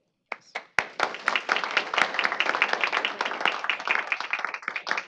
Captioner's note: applause